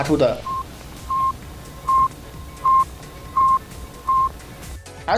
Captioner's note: satellite sound recording